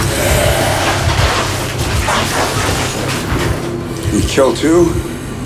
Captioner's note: zombies hissing